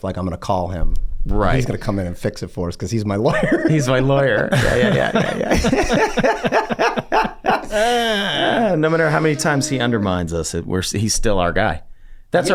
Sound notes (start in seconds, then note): 4.3 laughs; 6.5 gang laughing